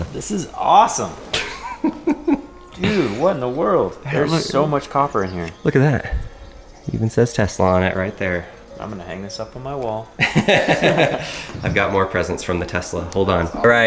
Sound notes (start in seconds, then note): 0.7 laughs; 10.1 laughs